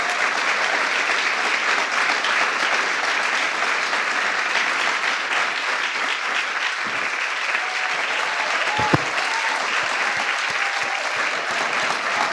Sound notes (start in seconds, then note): 0.9 applause